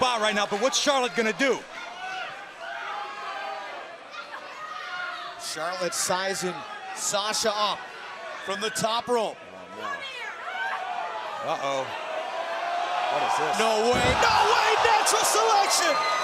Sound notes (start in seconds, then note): 3.4 crowd chatter